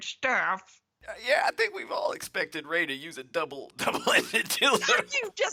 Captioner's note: cracks up